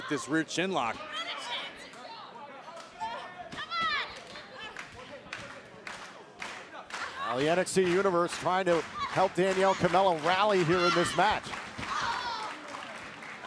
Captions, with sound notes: CHINLOCK. >> [CROWD CHEERING] >> AND THE NXT UNIVERSE TRYING TO HELP DANIELLE KAMELA RALLY HERE IN THIS MATCH.